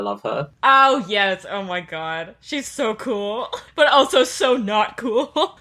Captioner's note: laughing